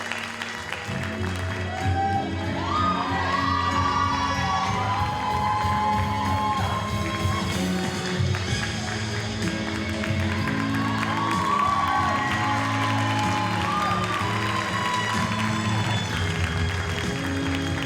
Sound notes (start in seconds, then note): 4.7 audience cheers and applauds